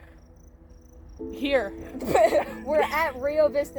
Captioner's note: us laughing